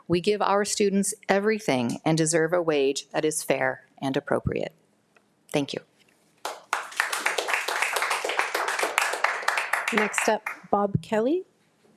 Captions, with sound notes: We give our students everything and deserve a wage that is fair and appropriate. Thank you. (attendees applauding) - Next up, Bob Kelly.